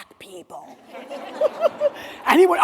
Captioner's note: everyone laughing